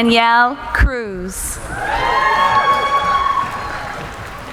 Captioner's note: cheering